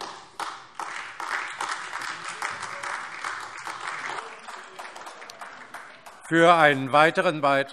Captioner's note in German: Beifall AfD